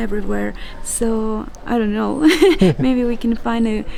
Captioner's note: laughs